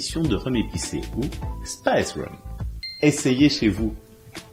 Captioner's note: speaking in English